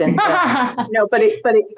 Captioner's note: laughs